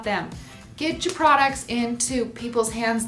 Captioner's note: slap